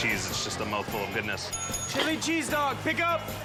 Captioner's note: bell rings